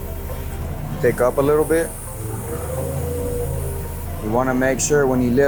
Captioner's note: lift engine roars